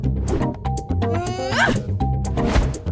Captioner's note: tossy grunt